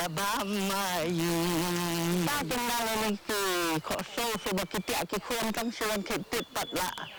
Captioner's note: non-english speech